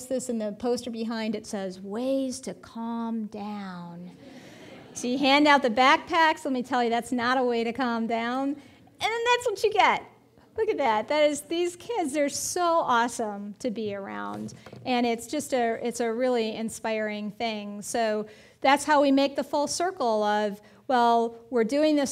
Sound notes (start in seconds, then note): 4.2 audience laughing